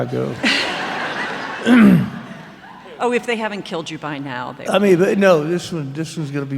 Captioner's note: laughter